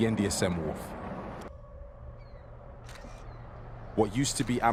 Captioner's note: seagulls and shutter snaps